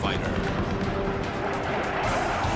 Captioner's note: gunshots